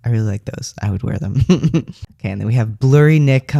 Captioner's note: laugh